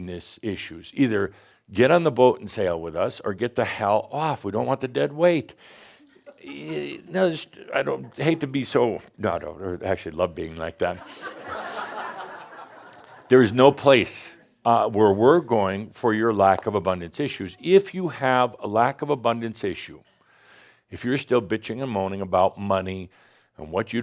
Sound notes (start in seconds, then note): 10.9 laughter